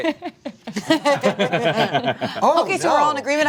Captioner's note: cast laughs